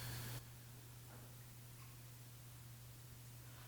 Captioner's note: none